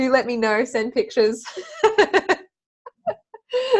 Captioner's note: laughs